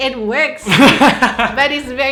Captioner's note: erupts in laughter